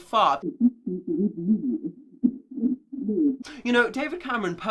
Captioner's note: voice muffled